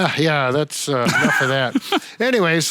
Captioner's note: laughing